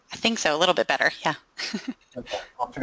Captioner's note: chuckling